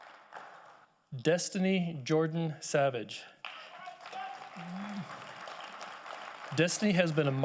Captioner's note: audience applauding